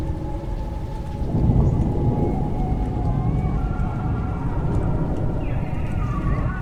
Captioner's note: animals howl